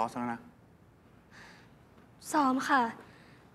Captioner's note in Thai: เสียงถอนหายใจ